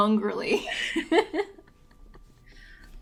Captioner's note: laughs